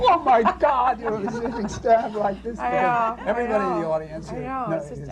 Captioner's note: laughter